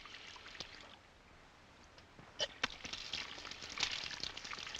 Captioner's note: none